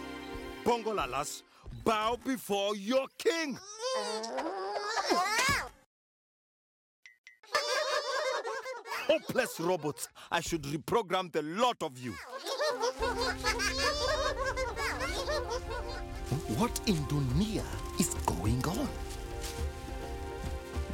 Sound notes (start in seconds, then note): 3.7 grunting in effort; 7.5 chuckling; 12.3 chuckling